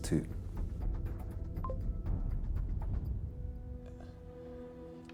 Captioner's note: computer bleeps